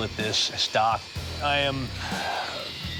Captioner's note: sighs